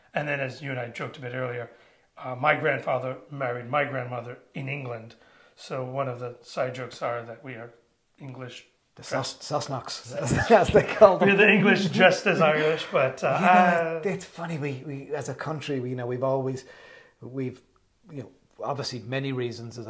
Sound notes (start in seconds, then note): 10.2 both laughing